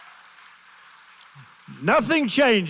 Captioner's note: applause